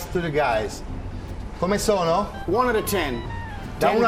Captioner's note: speaking Italian